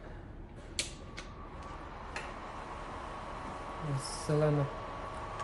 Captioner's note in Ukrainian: Шум вентилятора приладу